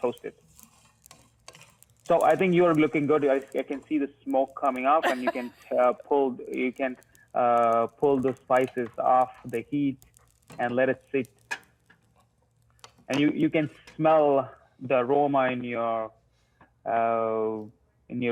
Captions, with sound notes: So I think you are looking good. I can see the smoke coming up. [laughs] You can pull the spices off the heat and let it sit. And you can smell the aroma in your room, I can imagine now.